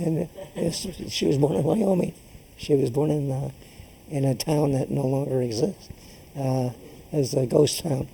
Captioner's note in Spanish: laughs